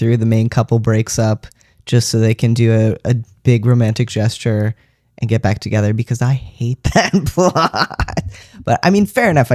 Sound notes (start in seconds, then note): 7.0 laughter